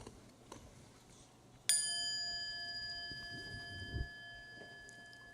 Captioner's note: chime